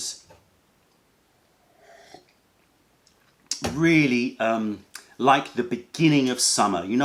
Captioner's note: sips tea